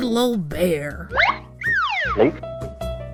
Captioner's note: whistle noise, big gulping sound; piano music